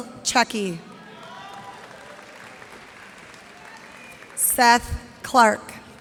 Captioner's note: cheers and applause